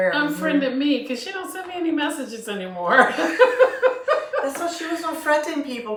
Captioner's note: laughter